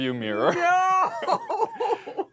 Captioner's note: laughs